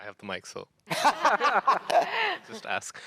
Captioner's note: laughter